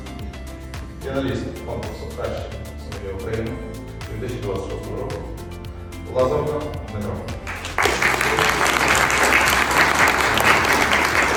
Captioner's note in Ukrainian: оплески